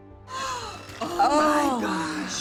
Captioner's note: gasps